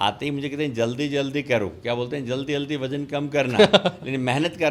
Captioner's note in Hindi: हंसी